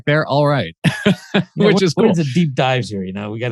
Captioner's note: laughs